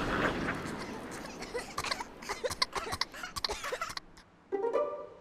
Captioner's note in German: hust